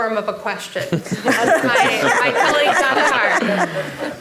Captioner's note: audience laughing